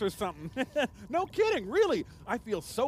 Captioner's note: chuckles